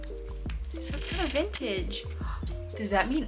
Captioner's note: gasp